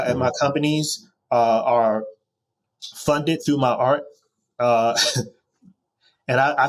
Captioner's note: chuckles